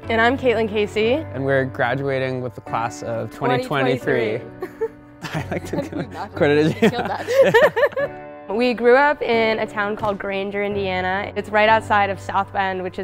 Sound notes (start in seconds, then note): 5.2 chuckles; 6.5 laughs